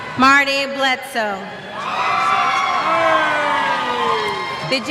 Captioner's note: cheers